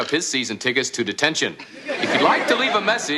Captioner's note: laughter